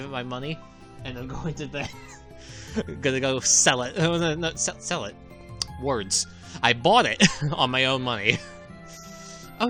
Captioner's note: chuckles